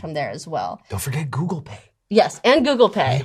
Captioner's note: whispering